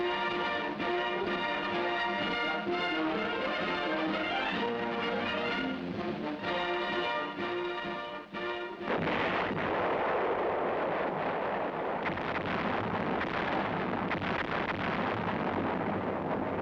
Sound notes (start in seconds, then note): 8.8 howitzer booms; 12.1 multiple howitzer booms